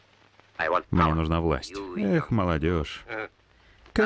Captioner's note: laughs